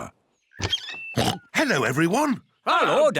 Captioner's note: oinks